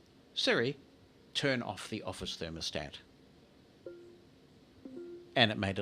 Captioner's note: computer notification